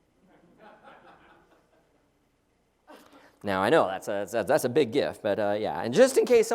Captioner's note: laugh